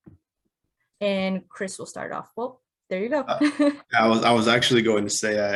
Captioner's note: laughs